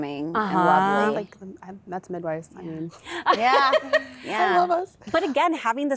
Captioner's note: laughter